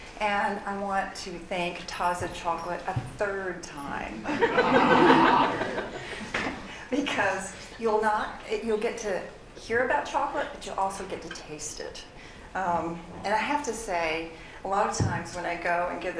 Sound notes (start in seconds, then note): 4.2 laughter